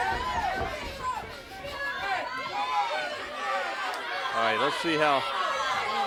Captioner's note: crowd chatter